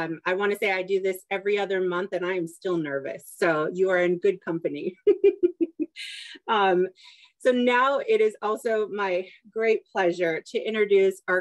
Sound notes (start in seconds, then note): 7.3 laughter